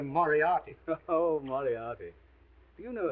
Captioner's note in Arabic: يضحك